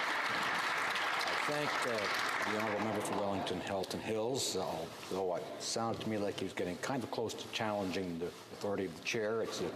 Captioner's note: applause